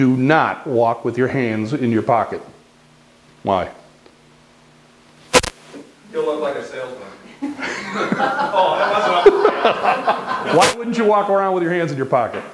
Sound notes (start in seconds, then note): 7.3 laughter